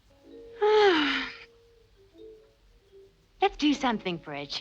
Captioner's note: Brigitte sighs